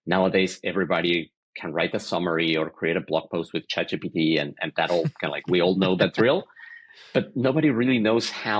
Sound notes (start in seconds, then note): 4.6 laughing